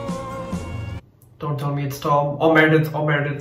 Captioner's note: none